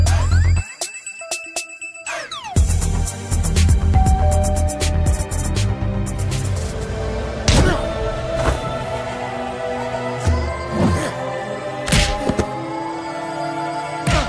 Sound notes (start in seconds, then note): 4.0 doorbell rings; 7.6 kick thuds; 11.9 neck snaps